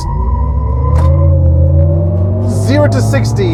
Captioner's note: car motor revving